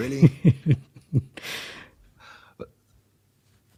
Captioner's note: laughing